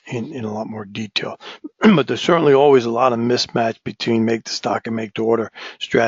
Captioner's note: cough